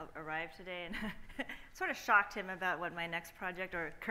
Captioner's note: laughs